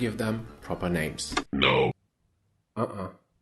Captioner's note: robotic voice